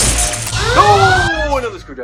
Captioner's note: sound of a forcefield turning on. The vacuum and Red-Alert siren stop